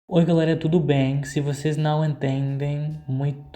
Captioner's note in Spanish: en portugues